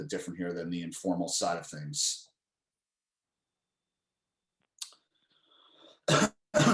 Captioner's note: coughs